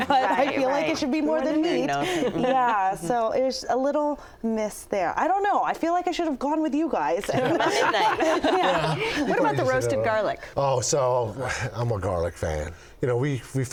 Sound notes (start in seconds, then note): 7.2 people laugh together